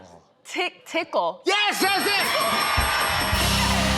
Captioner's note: dinging